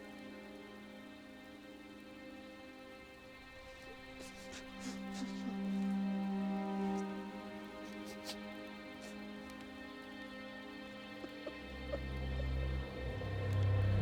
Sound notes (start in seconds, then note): 2.8 breaks into sobs; 10.8 weeping